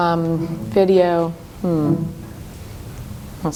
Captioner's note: computer beeping